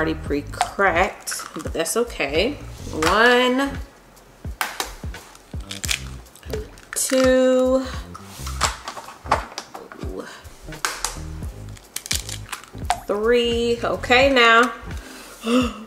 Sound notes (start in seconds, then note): 1.9 water drop plops; 4.5 egg tapping; 6.5 water drop plops; 11.7 egg tapping; 12.8 water drop plops